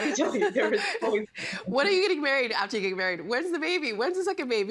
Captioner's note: laughter